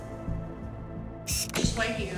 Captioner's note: camera click